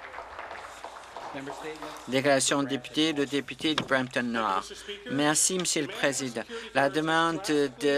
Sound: applause

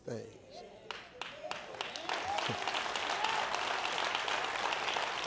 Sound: audience applauding

